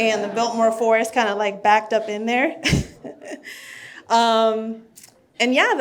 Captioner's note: laughs